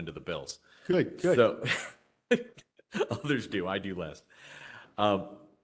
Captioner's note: laughter